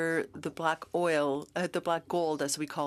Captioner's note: speaking French